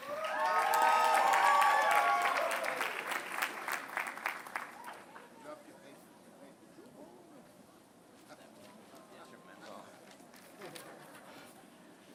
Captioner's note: applause